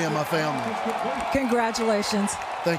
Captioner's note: cheering